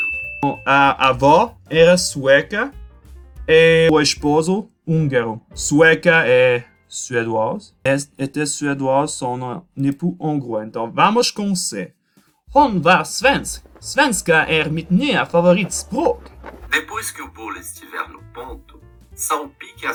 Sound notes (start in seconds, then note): 12.1 speaking Swedish